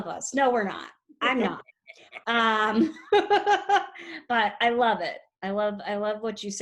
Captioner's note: laughs